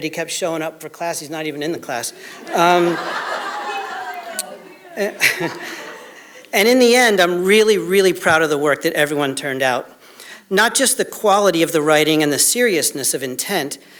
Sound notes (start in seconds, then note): 2.1 audience Laughter